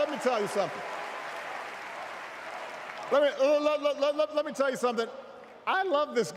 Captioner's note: cheers